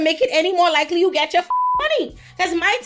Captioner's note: beep